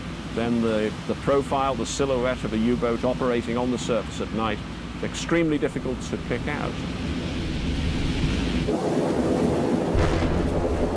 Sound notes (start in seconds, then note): 8.3 waves crashing; 9.9 gun fires